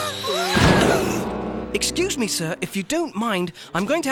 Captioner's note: grunting